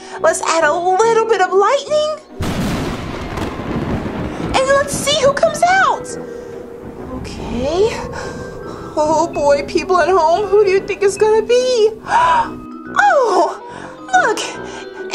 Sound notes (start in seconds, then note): 2.6 thunder crashes; 12.0 gasps